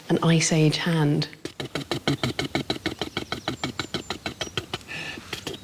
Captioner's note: short, repeated spitting